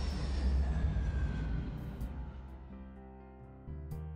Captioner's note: airplane Jet Noises